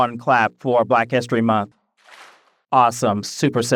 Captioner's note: audience claps